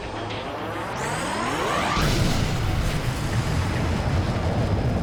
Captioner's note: laser firing